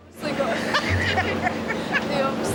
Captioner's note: laughter